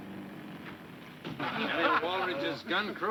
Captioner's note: men laughing